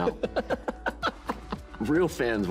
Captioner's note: laughing